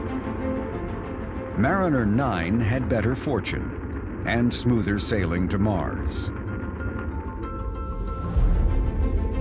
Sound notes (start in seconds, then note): 2.3 dramatic music; 3.6 rocket engine fires up